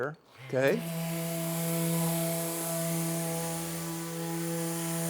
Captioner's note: tool buzzing